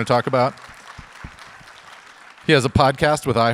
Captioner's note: audience applauds